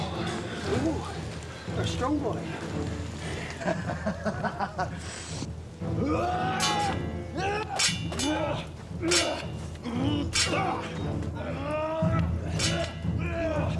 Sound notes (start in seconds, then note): 3.2 laughs; 5.9 swords clanging; 5.9 fighters grunting